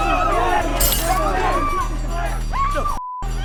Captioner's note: glass shatters